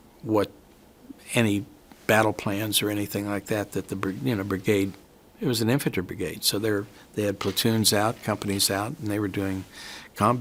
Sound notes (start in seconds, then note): none